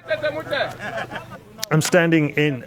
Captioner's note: laughs